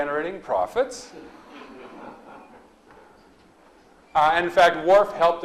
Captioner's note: audience laughs